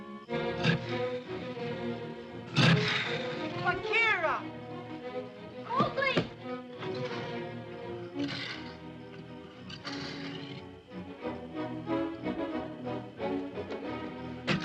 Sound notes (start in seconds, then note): 0.2 ominous music; 0.4 panther growls; 7.9 panther growls; 10.8 soft dramatic music; 14.4 panther growls